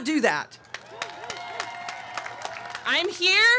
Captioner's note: audience cheering